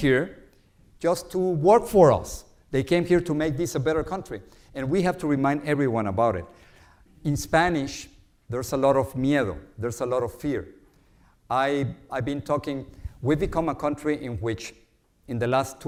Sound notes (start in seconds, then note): 9.5 speaks Spanish word